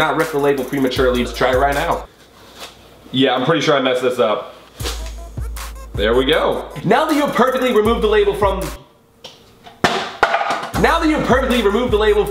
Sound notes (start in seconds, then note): none